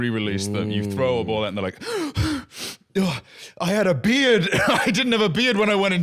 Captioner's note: gasping